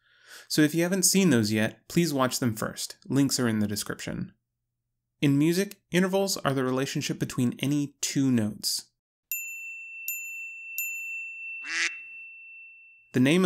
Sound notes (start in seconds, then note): 9.2 ding; 11.7 buzzer